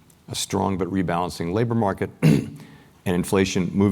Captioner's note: cough